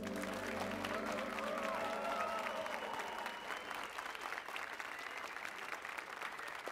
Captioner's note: applause and cheers